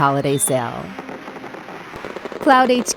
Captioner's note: firework begin popping